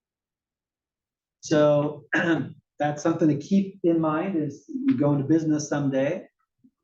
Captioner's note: cough